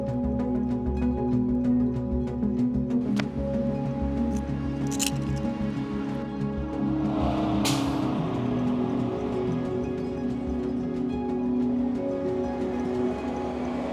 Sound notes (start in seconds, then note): 6.8 bus engine whooshing